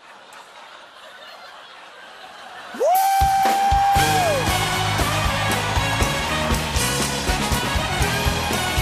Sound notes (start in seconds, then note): 0.0 laughter; 6.4 theme song plays